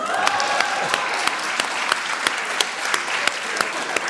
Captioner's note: audience applauds